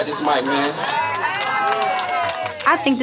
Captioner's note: crowd cheering